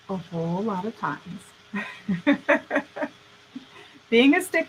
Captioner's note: laughing